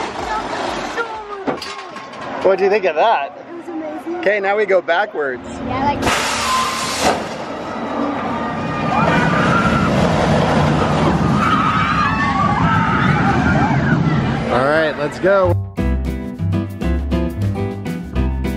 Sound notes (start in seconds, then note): 11.0 screaming; 15.4 lounge music